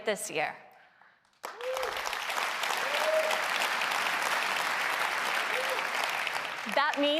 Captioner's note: applause